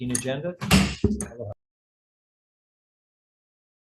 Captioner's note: gavel smacks